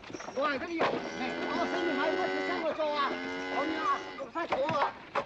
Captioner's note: yammering in Cantonese; cow mooing